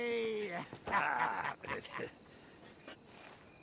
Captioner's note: laughs